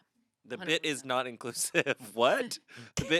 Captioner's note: laughs